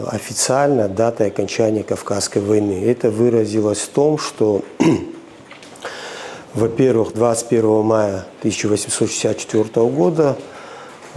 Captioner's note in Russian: откашливается